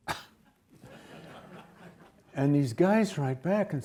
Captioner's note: audience laughs